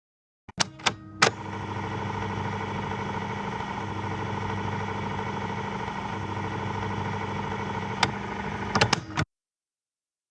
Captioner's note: silence; film sound rolling; silence